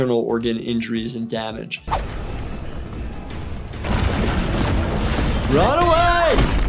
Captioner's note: monster footsteps banging